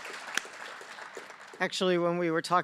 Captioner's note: applause